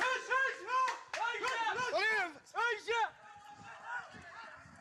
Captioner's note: people yelling in foreign language